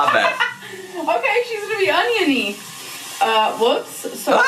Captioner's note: laughs